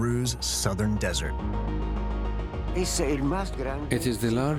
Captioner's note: speaking Spanish